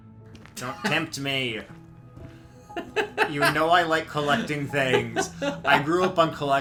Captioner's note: laughs